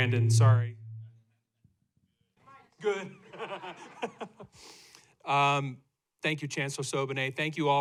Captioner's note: laughter